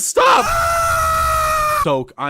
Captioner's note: hbomberguy screaming